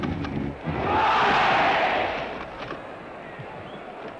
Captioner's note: crowd shouting "olé"